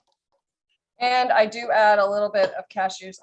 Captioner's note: none